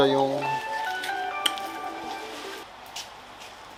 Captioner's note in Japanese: 電話音